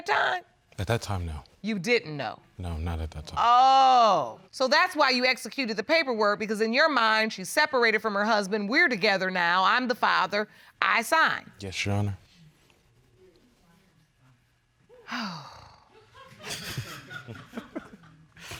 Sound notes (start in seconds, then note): 15.0 sighs; 15.8 chuckles; 15.9 laughter